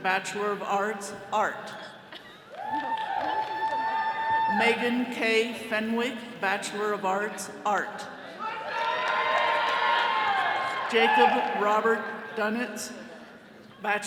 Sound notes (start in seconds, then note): 2.5 attendees cheering; 8.4 all cheering